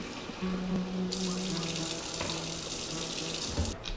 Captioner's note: water running